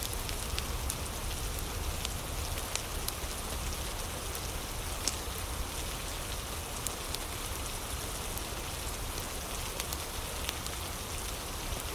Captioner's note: fire crackling; fire crackling